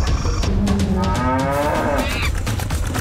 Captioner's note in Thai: เสียงโคร้อง